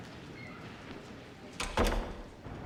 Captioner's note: door closes